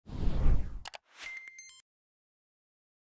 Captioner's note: air whooshing